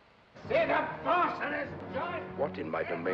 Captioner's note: yelling